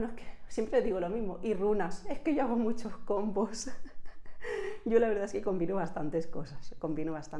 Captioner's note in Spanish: risas